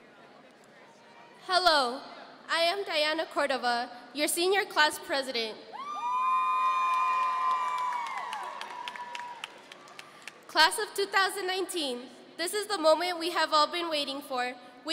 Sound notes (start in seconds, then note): 5.8 audience cheering